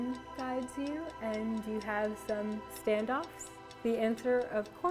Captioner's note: clock ticking